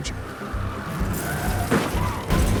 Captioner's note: tires screeching; crashing sounds